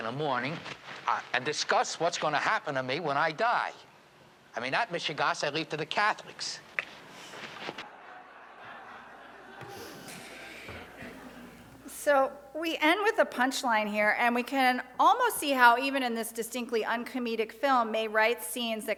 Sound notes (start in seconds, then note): 8.0 light laughter